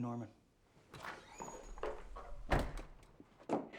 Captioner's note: door opens and closes